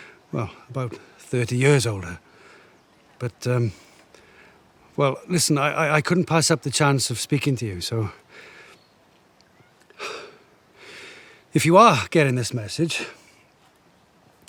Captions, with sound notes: Well, about 30 years older. But, um, well, listen, I couldn't pass up the chance of speaking to you, so... (exhaling) if you are getting this message,